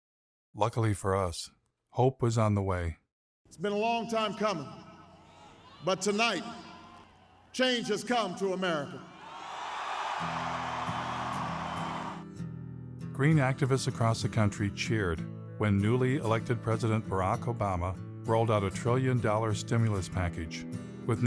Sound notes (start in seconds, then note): 9.1 crowd cheering; 10.4 guitar music